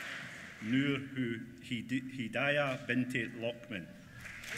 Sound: applause

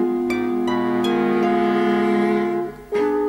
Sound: none

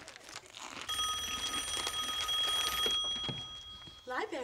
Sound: phone ringing

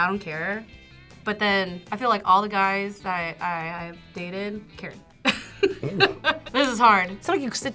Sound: laughs

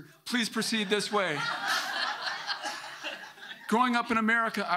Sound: audience laughing

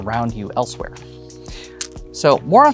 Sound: stones clatter

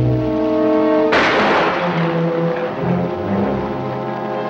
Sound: gun firing

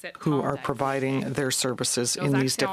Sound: speaking French

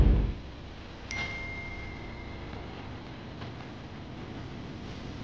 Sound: phone chiming

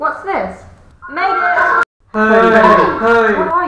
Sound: multiple voices

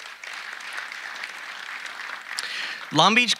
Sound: audience applauding

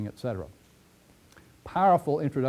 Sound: pause

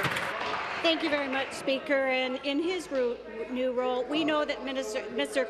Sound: applause

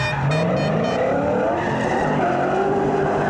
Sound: horn honking

